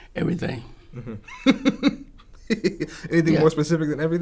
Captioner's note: laughs